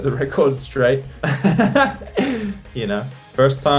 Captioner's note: laughs